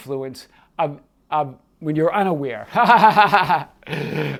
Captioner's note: laughs